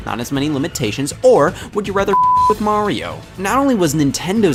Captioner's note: beep